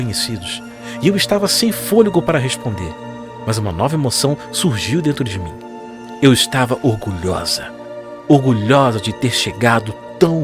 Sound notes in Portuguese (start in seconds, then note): none